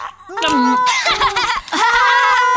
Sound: giggles

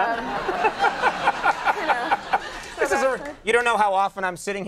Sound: crowd laughing

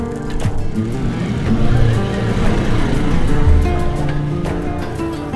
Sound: car engine revving; gentle guitar music; gentle music

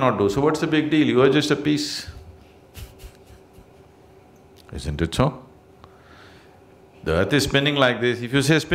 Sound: laughs

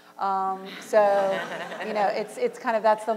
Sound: audience laughter

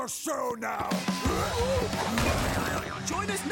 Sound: shouting

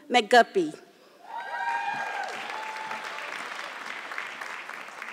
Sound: audience clapping

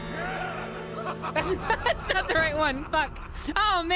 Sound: laughter

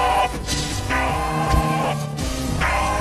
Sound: yelling

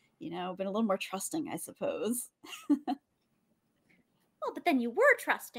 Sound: chuckles

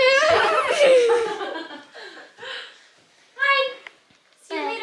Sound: toddler shouting

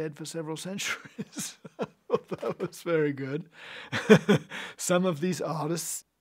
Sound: laughs

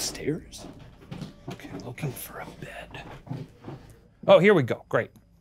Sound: footsteps treading

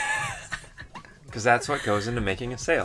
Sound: laughs

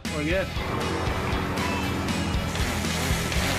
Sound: buzzing

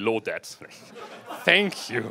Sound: laughter

